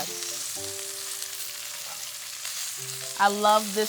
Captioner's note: pork sizzling